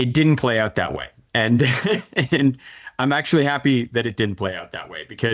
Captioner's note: laughing